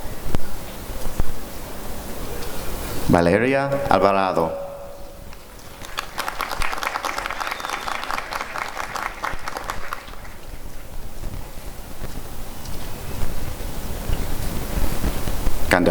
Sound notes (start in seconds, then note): 5.2 applause and cheering